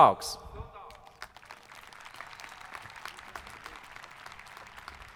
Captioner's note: audience applauding